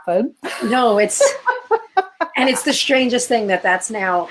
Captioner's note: laughter